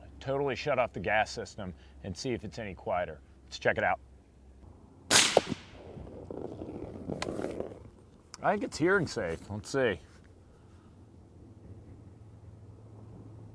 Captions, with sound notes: Totally shut off the gas system and see if it's any quieter. Let's check it out. (rifle fires) I think it's hearing safe, let's see.